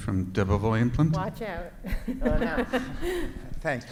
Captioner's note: laughs